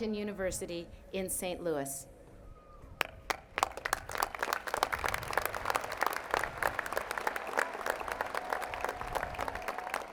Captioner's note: applause